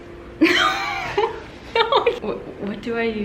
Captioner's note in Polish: śmiech